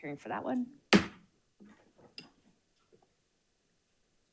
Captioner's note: gavel pounds